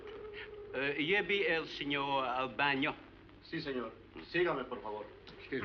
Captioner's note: speaking spanish